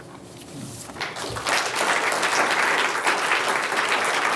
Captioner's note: applause